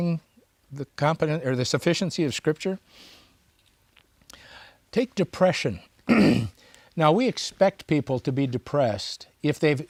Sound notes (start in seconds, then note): 6.0 clears throat